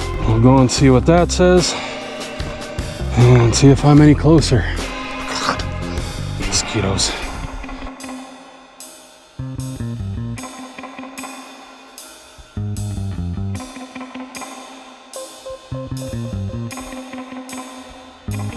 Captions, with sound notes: we'll go and see what that says and see if I'm any closer *blegh* mosquitoes